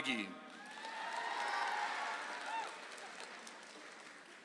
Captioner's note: audience applauds